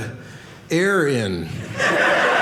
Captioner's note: audience laughing